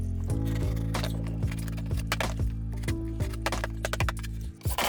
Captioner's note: knife slicing